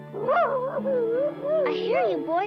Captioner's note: Arrow barking